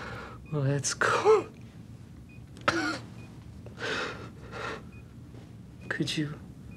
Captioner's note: coughing